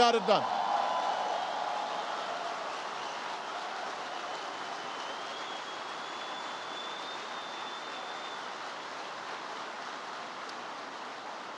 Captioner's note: applause